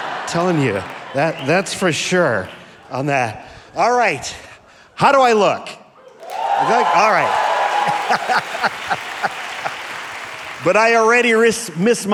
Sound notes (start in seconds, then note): 6.0 audience cheering; 6.1 audience applauding